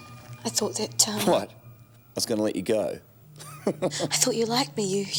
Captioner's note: laughs